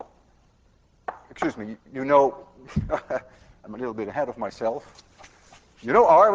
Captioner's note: laughs